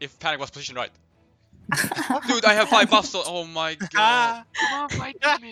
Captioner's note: haha